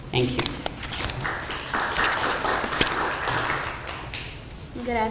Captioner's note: applause